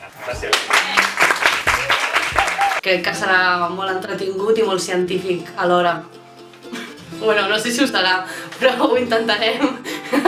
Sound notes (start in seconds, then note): 0.4 applause